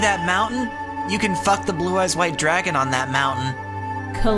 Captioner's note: Mokuba voice